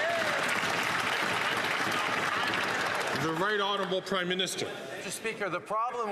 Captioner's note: some Applause